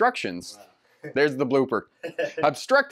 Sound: laughs

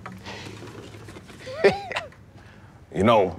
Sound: janitor chuckling

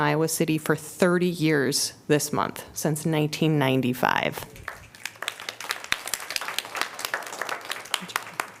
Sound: applause

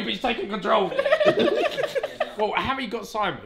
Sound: all laugh

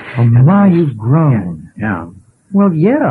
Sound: chuckles

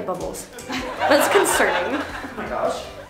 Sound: crowd laughs

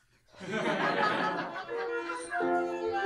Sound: laughter

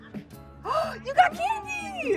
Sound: gasps

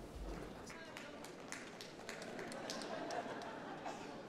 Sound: shouting from the floor

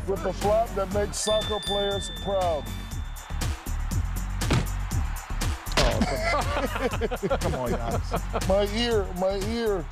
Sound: laughter

